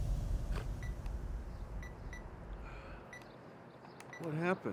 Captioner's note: game beeping